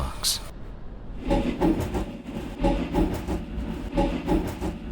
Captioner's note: rapid knocking